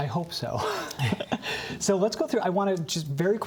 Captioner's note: laughter